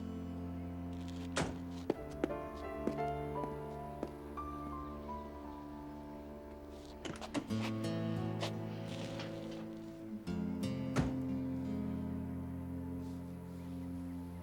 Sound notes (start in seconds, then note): 11.0 car door closes